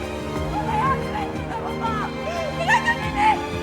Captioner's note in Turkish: Şirin bağırıyor